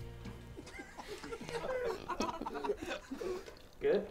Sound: people laugh

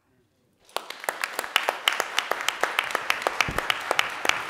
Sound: audience clapping

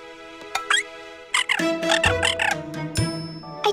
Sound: squeaking

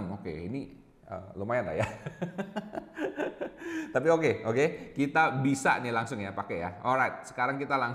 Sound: laughing

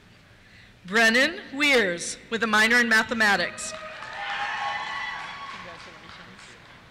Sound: cheers

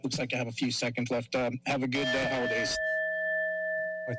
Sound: timer dings

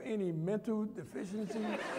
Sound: laughter

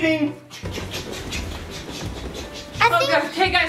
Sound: choo choo sounds

